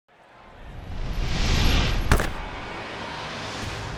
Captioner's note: crowd Cheering